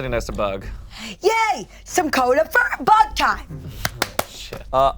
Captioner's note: claps